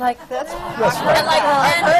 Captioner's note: laughter